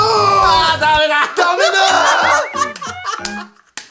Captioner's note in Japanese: キンポヨヨン音